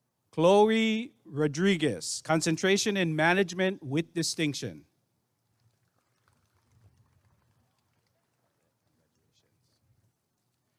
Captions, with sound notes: Chloe Rodriguez Concentration in Management with Distinction [applause and cheering]